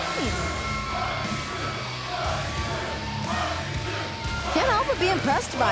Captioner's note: crowd cheering